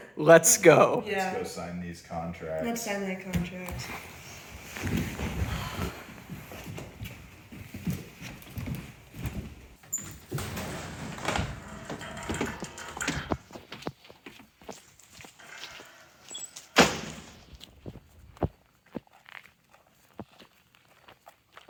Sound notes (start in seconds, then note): 3.9 material rustling; 8.5 footsteps clomping; 16.4 door banging; 17.0 footsteps crunching